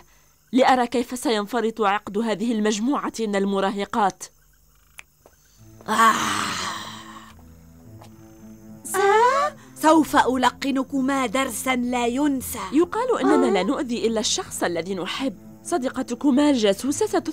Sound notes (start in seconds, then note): 6.4 snaps fingers